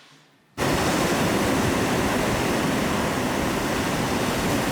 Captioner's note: water sloshing